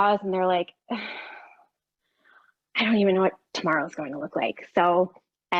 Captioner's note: sighs